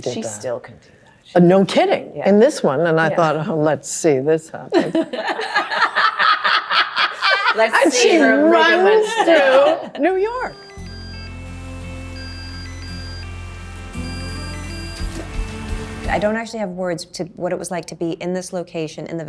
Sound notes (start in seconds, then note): 4.8 everyone laughing; 10.2 phone ringing